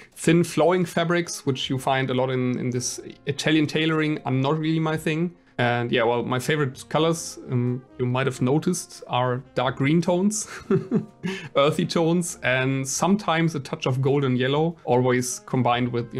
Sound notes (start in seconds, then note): 11.0 laughs